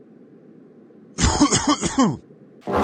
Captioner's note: coughs hard